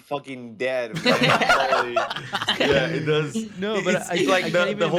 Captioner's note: laughs